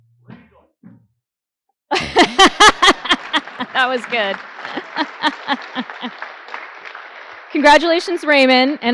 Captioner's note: applause; laughter